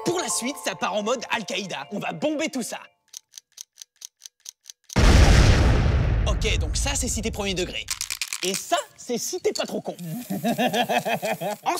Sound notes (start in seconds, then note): 3.0 stopwatch Noise; 4.9 explosion; 10.2 laughter